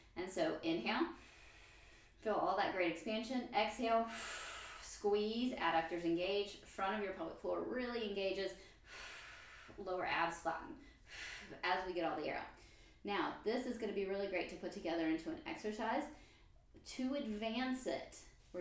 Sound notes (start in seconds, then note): 1.5 inhale; 4.1 exhale; 8.6 exhale